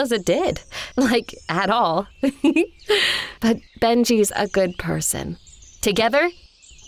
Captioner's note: chuckles